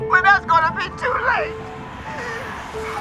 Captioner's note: Mama wheezing